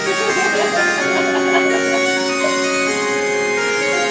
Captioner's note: audience laughing